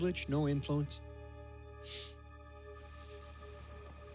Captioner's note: sniffs